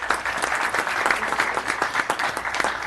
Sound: applause

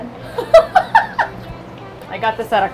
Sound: laughing

